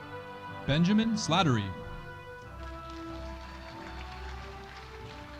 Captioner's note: audience applauding